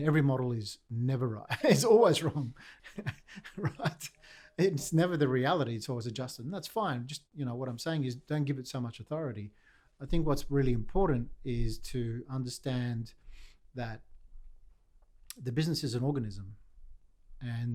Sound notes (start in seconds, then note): 1.5 chuckling